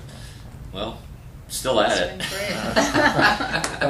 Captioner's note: laughter